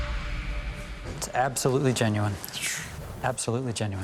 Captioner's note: sighs in relief